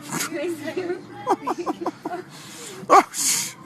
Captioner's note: laughing in the background